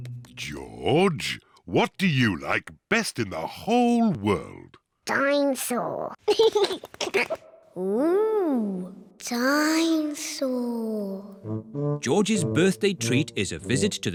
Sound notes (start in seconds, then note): 6.3 giggles